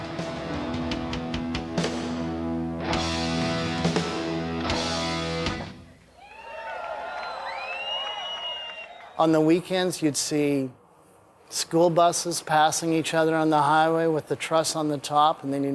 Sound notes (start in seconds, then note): 2.4 rock music; 6.2 audience applauding